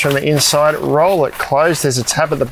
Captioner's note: fabric crumpling